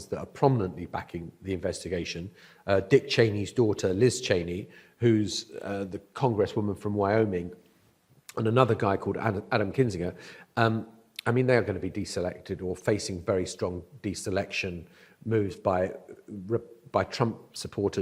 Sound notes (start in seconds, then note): none